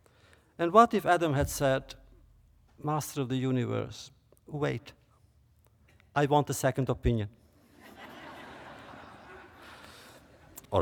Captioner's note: laughter